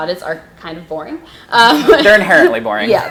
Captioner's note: laughing